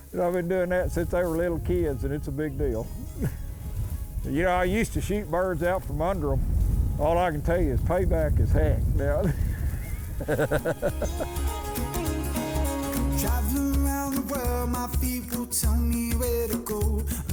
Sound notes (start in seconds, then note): 10.0 laughs; 12.1 upbeat country music